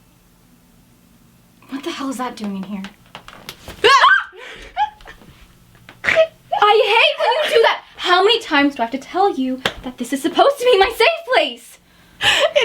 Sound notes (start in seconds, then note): 3.8 both scream; 3.8 kayla laughing